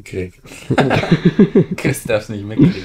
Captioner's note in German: Lachen